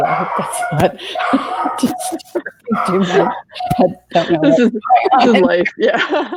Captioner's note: laughing; laughs; laughing